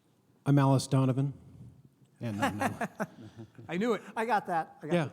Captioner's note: laughs